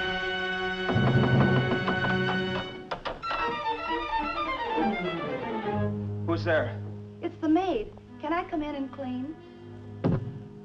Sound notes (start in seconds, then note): 0.7 knocking continues